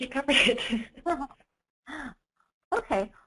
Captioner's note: laughing